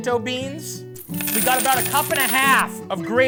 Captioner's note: coins falling